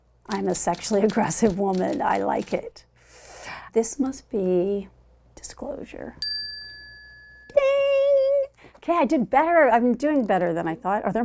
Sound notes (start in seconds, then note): 6.2 tone dings